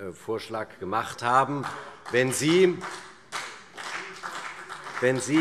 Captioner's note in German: Beifall CDU und vereinzelt BÜNDNIS 90/DIE GRÜNEN